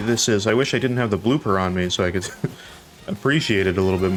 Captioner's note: laugh